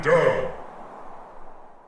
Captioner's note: wind dies down